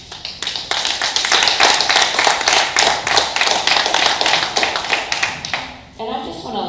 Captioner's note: applause